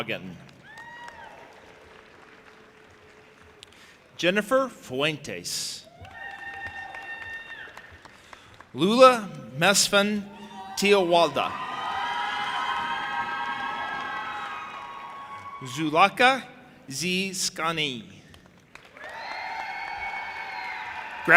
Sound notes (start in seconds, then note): 0.4 audience applauding and cheering; 5.9 audience applauding and cheering; 11.2 audience applauding and cheering; 18.6 audience cheering and applauding